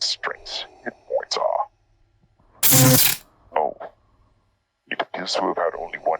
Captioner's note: zappp